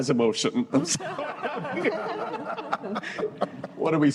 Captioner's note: laughter